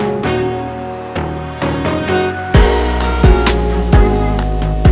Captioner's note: clap